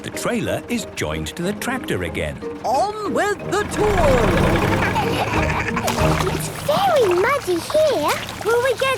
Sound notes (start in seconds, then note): 3.6 laughing